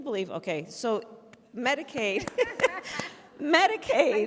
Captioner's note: applause